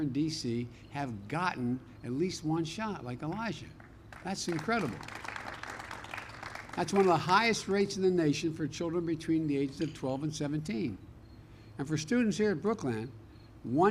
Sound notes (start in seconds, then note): 4.0 applause